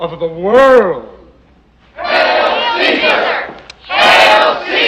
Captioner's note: crowd cheering